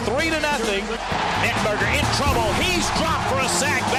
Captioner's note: voiceover